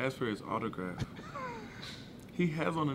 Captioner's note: laughing